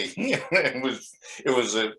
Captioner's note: laughs